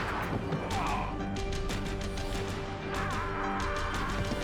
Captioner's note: robber groaning; upbeat music